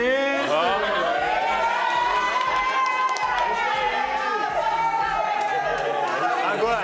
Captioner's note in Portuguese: risos